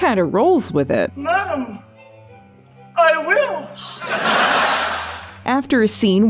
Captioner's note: audience laughter